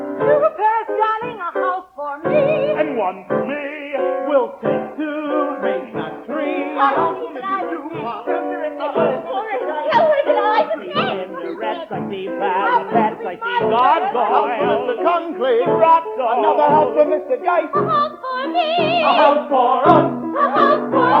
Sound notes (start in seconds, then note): 0.7 singing; 6.8 rich people squabbling; 11.7 singing; 13.1 rich people squabbling; 13.7 singing